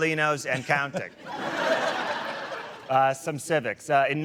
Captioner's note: laughter